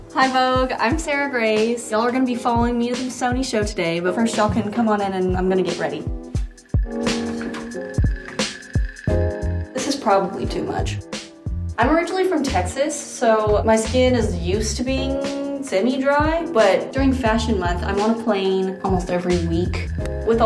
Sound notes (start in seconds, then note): 7.0 fast pace clacking